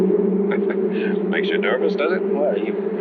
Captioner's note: bees buzzing; chuckles